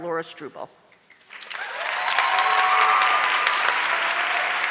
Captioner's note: audience clapping